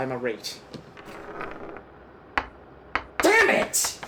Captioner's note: sound of ball bearing falling to the floor